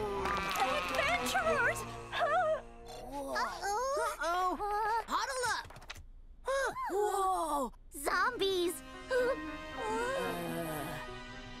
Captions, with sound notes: Eggventurers! (whimpering) - Whoa. - Uh-oh! - Uh-oh! - Huddle up! (gasps) - Whoa! - Zombies! (gasping)